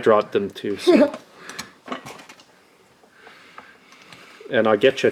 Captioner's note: laughs